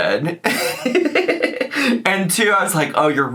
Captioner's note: laughing